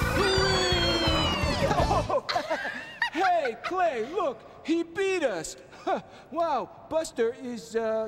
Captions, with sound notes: Whee! ( both laughing ) Hey, Clay, look! He beat us! Wow, Buster is the, uh...